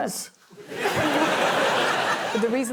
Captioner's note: laughter